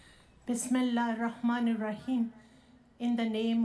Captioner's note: speaking foreign language